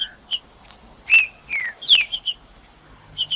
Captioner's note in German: trinca ferro cantando